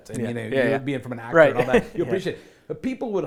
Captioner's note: laughs